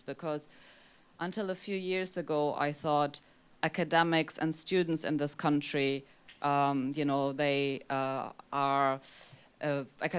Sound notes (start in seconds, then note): none